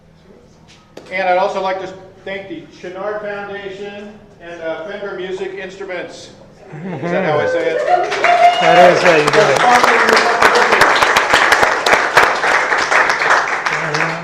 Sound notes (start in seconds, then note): 7.3 audience: Woohoo; 10.0 applause